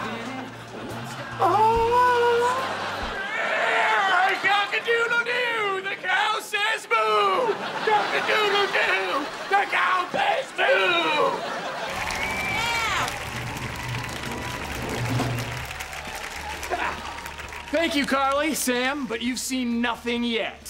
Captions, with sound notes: [weak scream] [screaming] Cock-a-doodle-doo, the cow says moo! Cock-a-doodle-doo, the cow says moo! Thank you, Carly, Sam, but you've seen nothing yet.